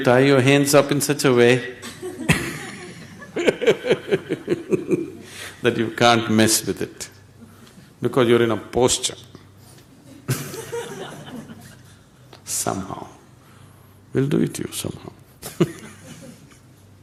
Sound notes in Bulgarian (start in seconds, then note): 1.8 смее се; 10.0 смях; 14.8 смее се